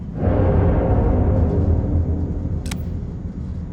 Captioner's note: metal banging